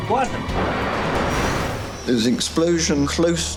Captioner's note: metal tearing